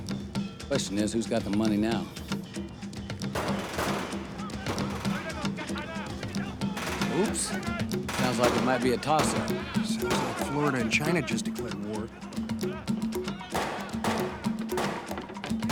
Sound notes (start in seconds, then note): 3.3 two gunshots; 6.8 car engine starting, man shouting in distance; 13.5 gunshots